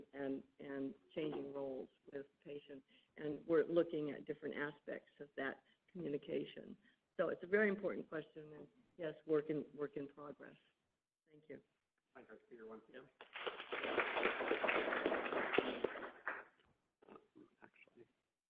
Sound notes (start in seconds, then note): 12.1 voice fading away; 13.2 audience clapping